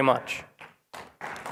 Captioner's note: applause